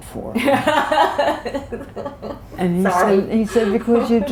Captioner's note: laughter